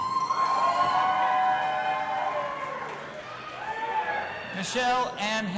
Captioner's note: audience applauding and cheering